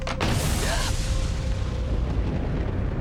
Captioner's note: lightning cracks; Jill gasps; thunder rumbles